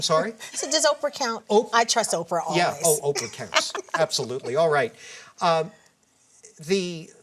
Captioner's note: laughter